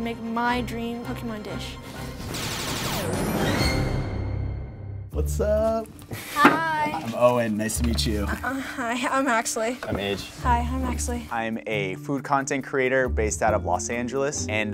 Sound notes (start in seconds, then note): 2.7 cartoon attack sounds; 5.0 playful music